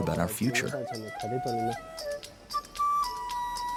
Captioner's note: painter speaks foreign language; mellow flute music